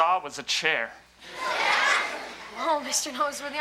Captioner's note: audience laughs